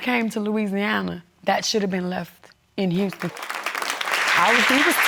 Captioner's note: audience applauding